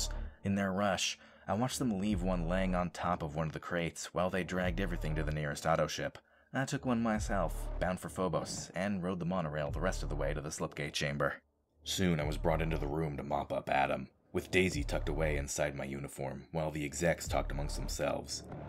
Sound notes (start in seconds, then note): none